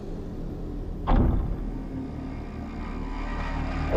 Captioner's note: object thudding; soft tense music